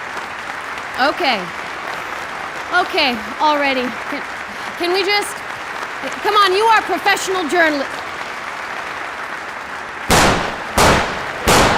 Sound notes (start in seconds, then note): 0.1 endless applause; 3.7 endless applause; 7.4 endless applause; 10.0 gun shots